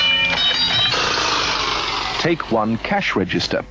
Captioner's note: clock whirs down